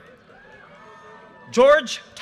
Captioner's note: audience cheers and applause